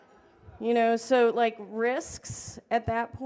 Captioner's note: laughter